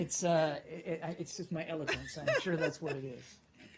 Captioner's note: laughter